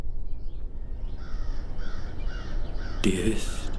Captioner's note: crow cawing